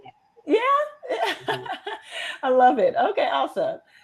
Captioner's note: laughs